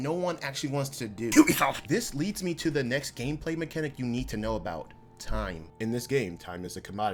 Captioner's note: coughs UBISOFT